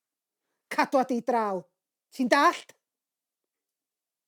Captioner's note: in Welsh